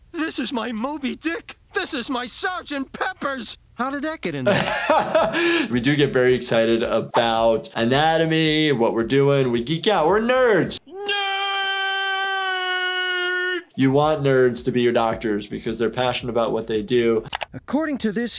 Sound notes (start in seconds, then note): 4.4 laughs